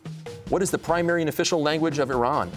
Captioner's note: none